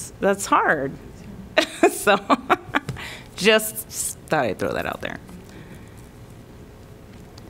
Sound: laughter

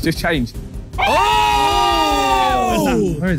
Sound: sidemen exclaiming

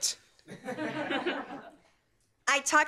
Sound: laughter

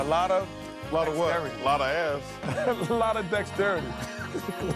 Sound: laughter

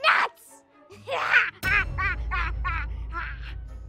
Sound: laughs

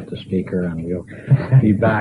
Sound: laughter

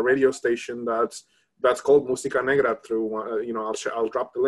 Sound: speaks in Spanish

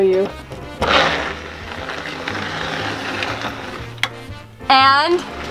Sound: creaky door opening

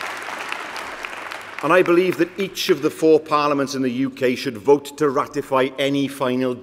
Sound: applause

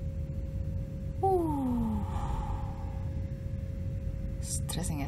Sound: long sighs in ultimate relief

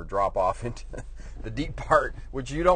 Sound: laughs

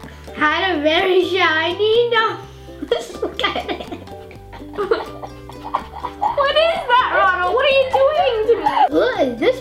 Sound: laughs

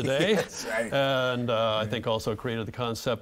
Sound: laughing

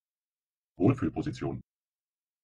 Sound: fast Pronunciation

